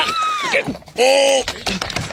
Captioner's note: screaming